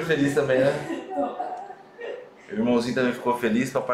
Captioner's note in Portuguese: risos